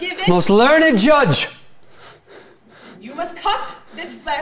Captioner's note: panting